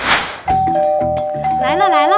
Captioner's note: ding-dong